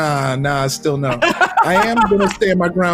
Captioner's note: laughs